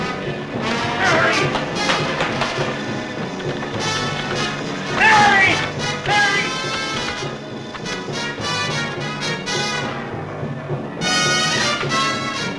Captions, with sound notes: Mary! (buzzing) Mary, Mary!